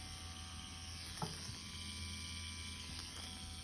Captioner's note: machine whirring